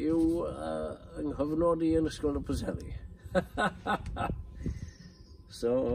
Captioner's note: laughs